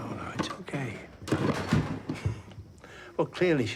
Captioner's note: objects clattering